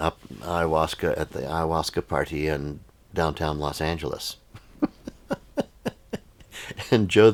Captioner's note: laughs